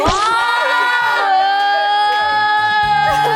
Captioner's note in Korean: 웅성웅성 난리법석